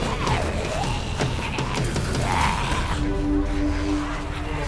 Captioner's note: pounding; zombie snarling